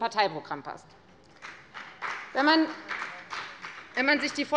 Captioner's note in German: Beifall bei der FDP